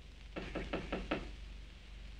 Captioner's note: knocking at door